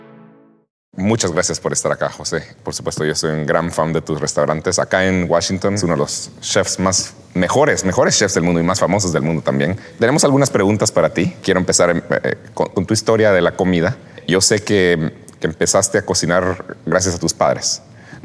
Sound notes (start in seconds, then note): 0.9 in Spanish